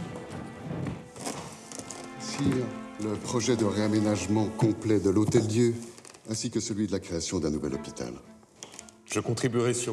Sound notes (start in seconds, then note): 2.5 gentle music; 2.5 men speaking in French